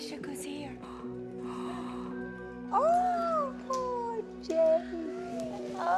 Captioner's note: gasps